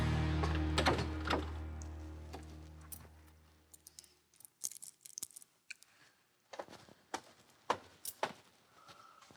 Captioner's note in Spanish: sonido al abrir la puerta